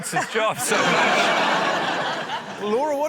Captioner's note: laughter